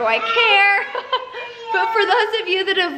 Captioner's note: laughing